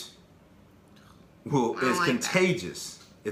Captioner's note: boo